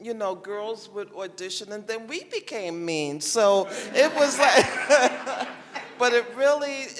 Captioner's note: laughter